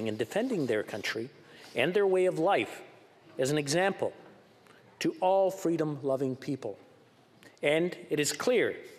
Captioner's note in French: voix de l'interprète